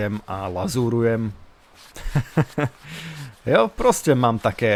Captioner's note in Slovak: smiech